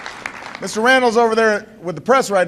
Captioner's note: applause